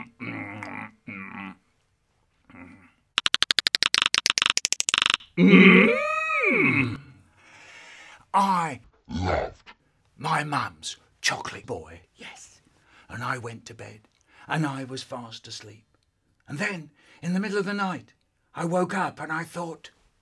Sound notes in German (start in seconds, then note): 3.2 Intensives zungen clicken; 7.2 Atem Geräusche